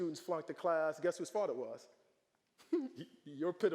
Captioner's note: giggling